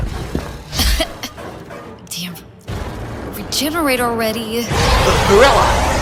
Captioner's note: cough